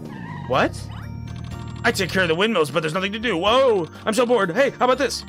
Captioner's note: hurried inflection